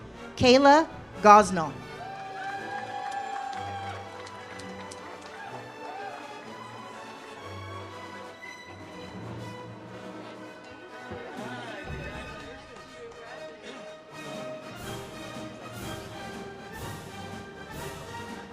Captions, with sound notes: Kayla Gosnell. (audience cheers) (ceremonial music)